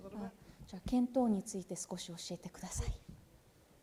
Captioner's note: speaking japanese